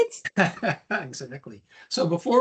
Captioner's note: laughs